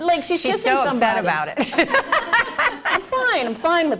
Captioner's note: laughter